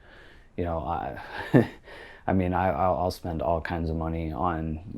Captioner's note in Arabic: ضحكة خافتة